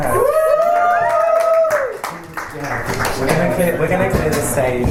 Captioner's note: panellists and audience applaud